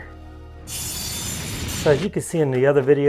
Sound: whooshing sound

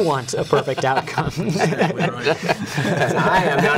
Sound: laughter

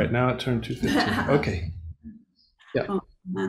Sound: laughing

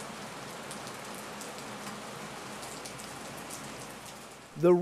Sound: rainfall

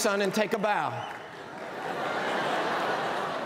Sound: cheers and applause

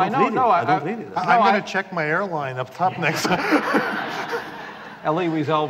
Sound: laughter

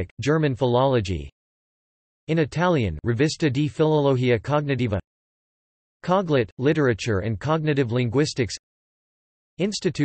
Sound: in Italian

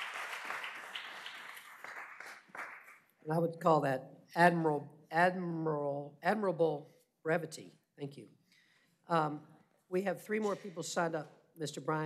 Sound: applause

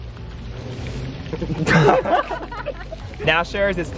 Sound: laughs

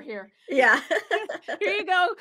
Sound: laughs

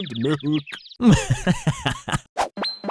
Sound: mischievous laugh

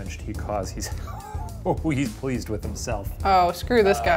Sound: laughing

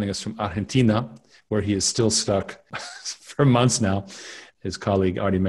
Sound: chuckles

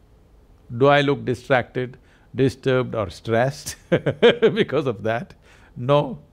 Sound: laughs

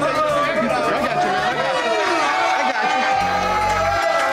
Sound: crowd cheering

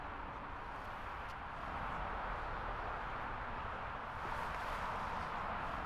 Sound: cars rumbling in distance

